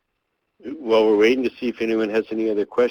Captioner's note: voiceover